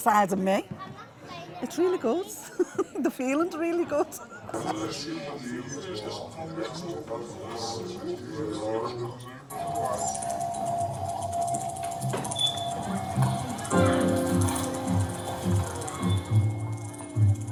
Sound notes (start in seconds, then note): 2.4 laughing; 4.7 distorted voices and sounds; 13.5 jazzy music playing